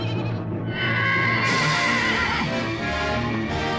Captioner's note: horse neighing; suspenseful music